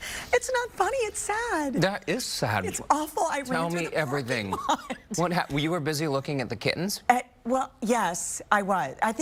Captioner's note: laughing